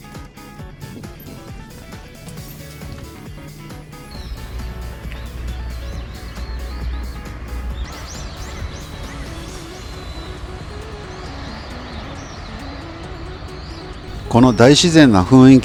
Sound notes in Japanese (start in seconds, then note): 4.0 鳥の鳴き声